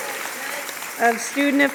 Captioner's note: applause and cheers